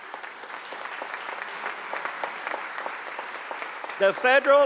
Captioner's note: applause